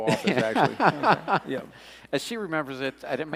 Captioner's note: laughing